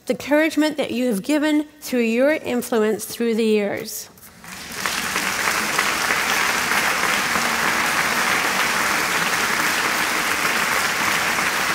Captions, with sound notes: the encouragement that you have given through your influence through the years. [ Applause ]